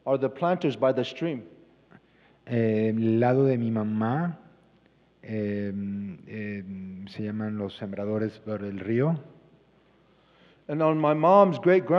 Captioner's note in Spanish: Expositor habla en inglés